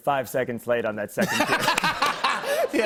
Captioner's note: laughter